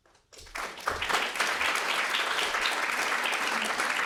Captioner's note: audience claps